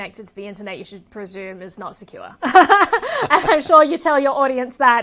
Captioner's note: both laughing